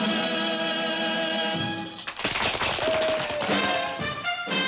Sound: applause

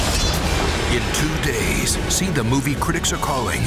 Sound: voiceover

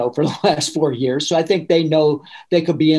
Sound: laughing

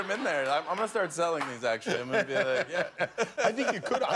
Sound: laughter

